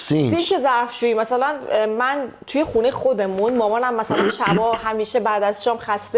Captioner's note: clears throat